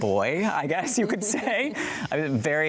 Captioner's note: both chuckling